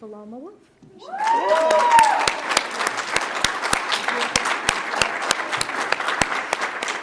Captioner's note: audience cheers; audience applauds